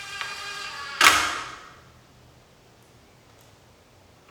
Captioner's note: drill drilling